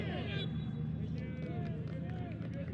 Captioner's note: whistle blows